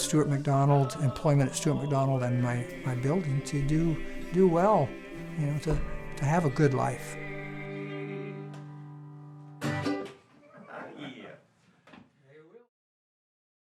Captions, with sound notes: employment at Stewart-MacDonald and my building to do do well, and to have a good life. (mandolin music) (players laughing)